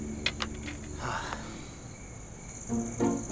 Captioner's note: Anuj sighing